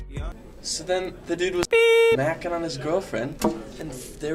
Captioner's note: beep